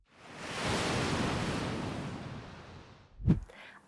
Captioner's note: sound of waves crashing